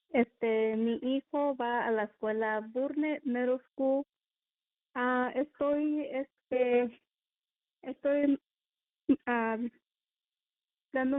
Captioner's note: speaking spanish